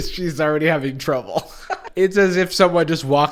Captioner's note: snickers